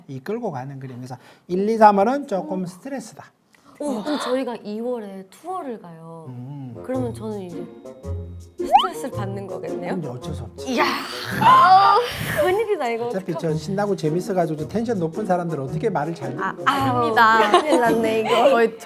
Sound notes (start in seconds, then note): 8.7 choked up